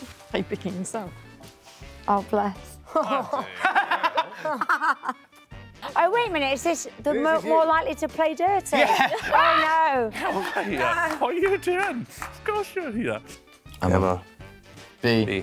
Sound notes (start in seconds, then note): 2.9 laughs